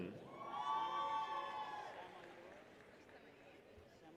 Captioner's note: people cheer